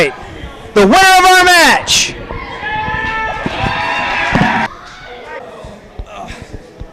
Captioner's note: crowd cheers